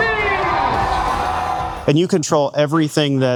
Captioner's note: audience cheers; lively instrumental music